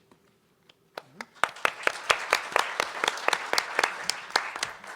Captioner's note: audience applauding